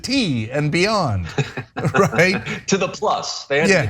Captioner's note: laugh